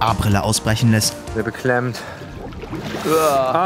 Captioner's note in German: Blubbern